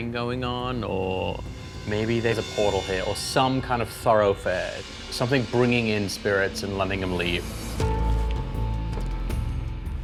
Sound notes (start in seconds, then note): none